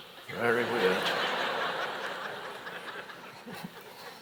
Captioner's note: audience laughs